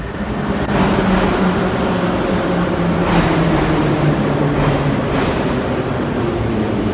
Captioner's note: arrival of train at the station